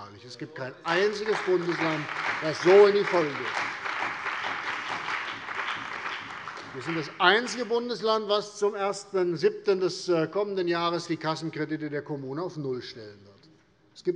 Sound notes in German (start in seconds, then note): 3.2 Beifall bei der CDU und dem BÜNDNIS 90/DIE GRÜNEN